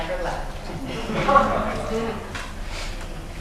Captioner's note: laughter